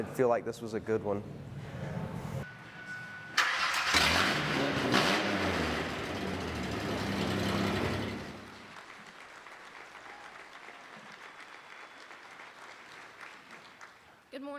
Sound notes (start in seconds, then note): 3.4 car starting and engine revving; 8.4 applause